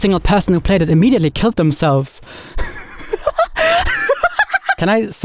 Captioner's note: laughs